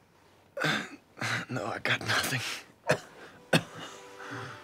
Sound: coughs

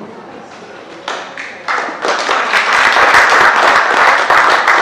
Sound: applause

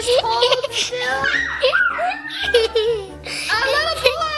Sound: laughing

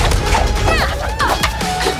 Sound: Raya grunts

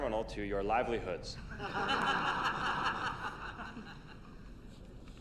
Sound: audience laughing

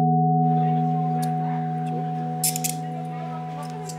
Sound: chatter

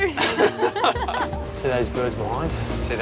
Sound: both laughing

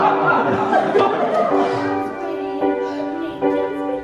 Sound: laughing

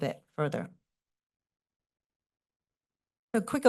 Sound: pause

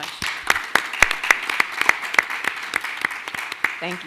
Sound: clapping

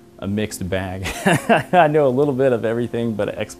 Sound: laugh

